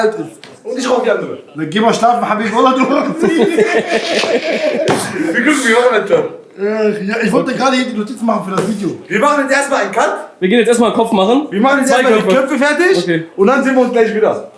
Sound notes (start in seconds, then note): 2.9 both are laughing